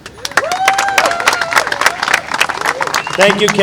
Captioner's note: applause